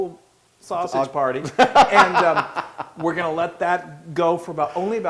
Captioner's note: laugh